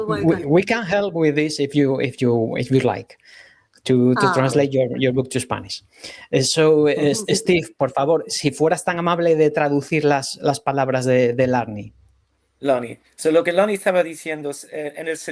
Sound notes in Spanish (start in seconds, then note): 5.5 resoplido